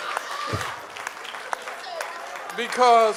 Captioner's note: audience cheers and applauds